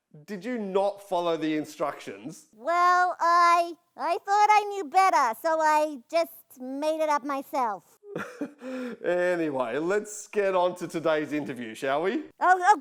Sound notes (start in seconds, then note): 8.2 laughing